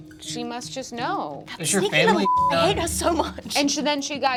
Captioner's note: beep